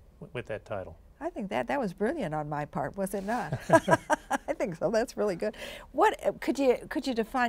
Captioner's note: chuckles